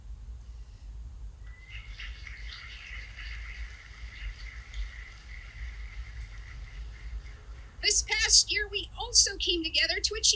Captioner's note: applause